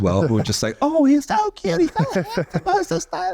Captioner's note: squeaky voiced